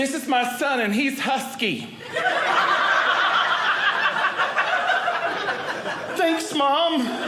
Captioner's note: audience laughing